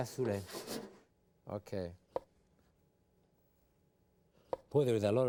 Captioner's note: knife chopping